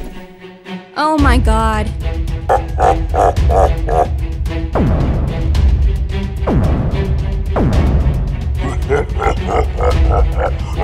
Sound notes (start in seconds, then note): 2.6 Bowser laugh; 8.6 Bowser laugh